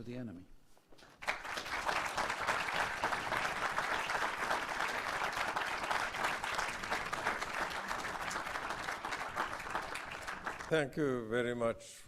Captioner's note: applause